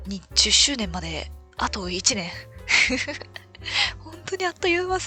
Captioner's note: laughs